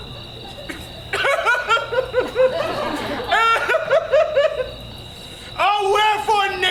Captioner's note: Pyramus cries exaggeratedly